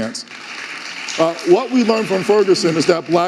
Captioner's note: audience applauding